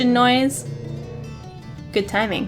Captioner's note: truck loudly thunders by outside